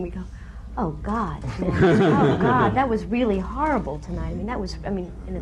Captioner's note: laughter